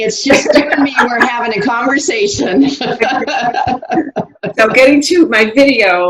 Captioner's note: laughs